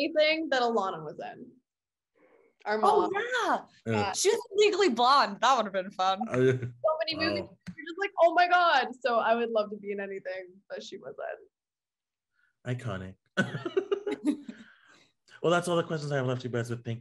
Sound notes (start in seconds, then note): 13.4 laughing